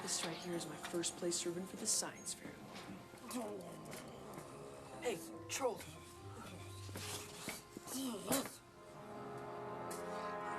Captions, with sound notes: FOR THE SCIENCE FAIR TOMORROW. HEY, TROLL. - [grunting] [sneezes]